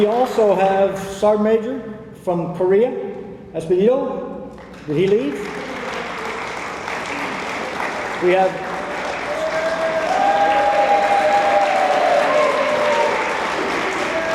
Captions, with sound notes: We also have Sergeant Major from Korea. Did he leave? (attendees applaud) (attendees cheering)